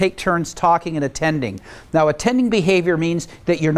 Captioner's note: none